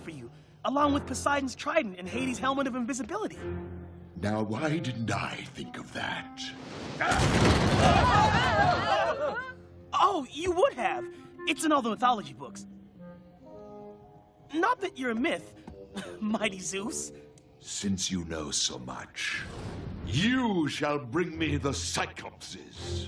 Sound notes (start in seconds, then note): 7.6 all gasping